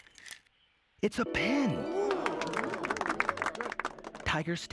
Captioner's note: applause